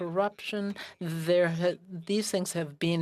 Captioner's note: speaking French